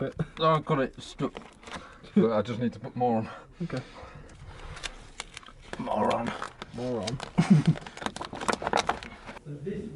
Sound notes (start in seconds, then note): 7.2 laughs